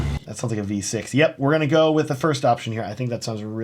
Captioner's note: car engine revving